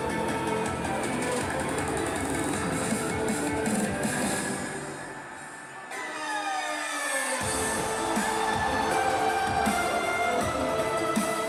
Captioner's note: crowd cheering